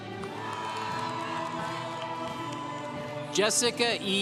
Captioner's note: congregation cheering